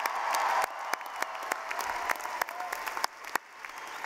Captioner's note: clapping